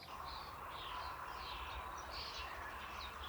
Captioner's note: birds chirping